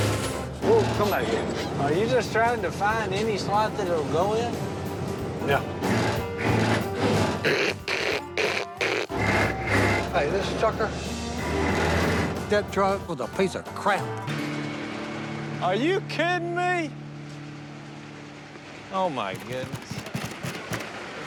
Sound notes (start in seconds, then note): 5.6 grinding; 7.4 imitates grinding gears; 11.2 grinding